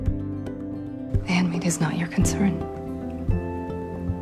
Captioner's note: voiceover